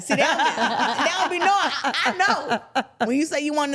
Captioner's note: everyone laughing